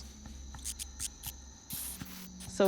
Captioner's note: bat squeaking